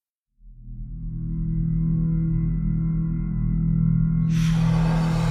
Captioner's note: ominous hum